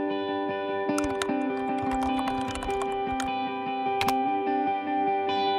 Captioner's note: typing